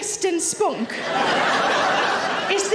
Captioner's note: audience laughing